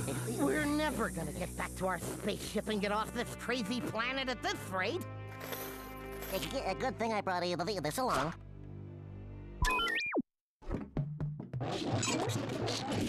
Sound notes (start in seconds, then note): 0.0 both panting; 6.2 stuttering; 9.5 beeping